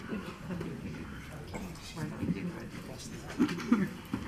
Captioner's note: woman's Voice; murmuring